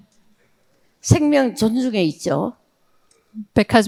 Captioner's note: speaking in foreign language